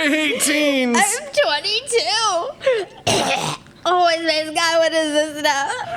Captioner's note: coughing